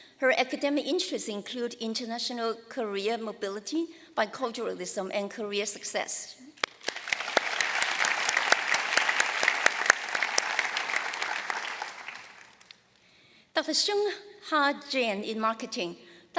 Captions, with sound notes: Her academic interests include international career mobility, biculturalism, and career success. [ Applause ] Dr. Sungha Jang in marketing --